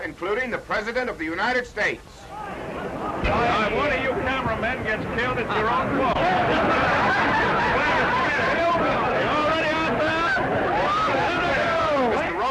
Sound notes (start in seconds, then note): 2.4 indistinct crowd chattering; 5.2 crowd laughing; 8.3 indistinct crowd chattering